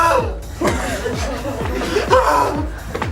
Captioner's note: laughs